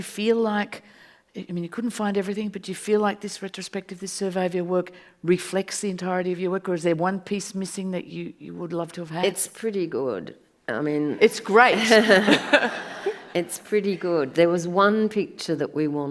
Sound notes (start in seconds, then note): 11.2 audience laughs